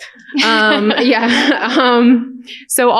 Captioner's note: laughter